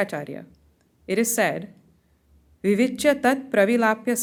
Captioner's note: hindi